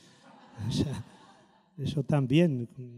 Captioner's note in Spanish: risotada